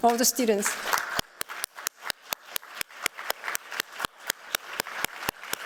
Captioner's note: applause